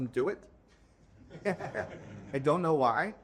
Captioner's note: laughing